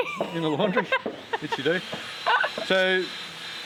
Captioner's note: laughing